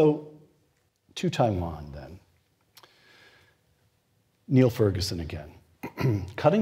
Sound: cough

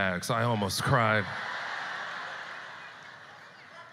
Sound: audience laughter

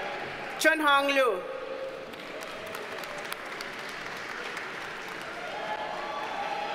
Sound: audience cheers and applauds

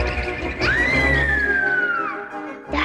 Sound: screaming

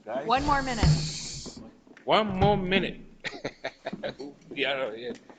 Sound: laughing

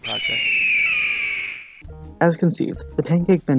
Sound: bird cawing

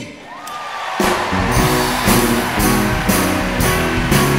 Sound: audience cheering; audience applauding

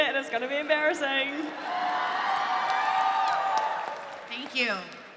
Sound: audience cheering

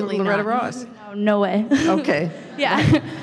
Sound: voiceover

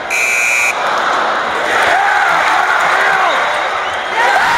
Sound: buzzer sounds, crowd groans, then cheers; crowd erupts

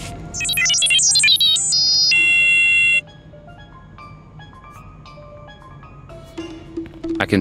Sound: beeps

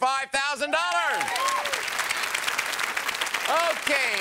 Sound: audience applauds

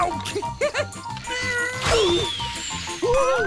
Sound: chuckles; grunting

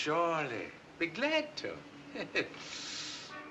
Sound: chuckling

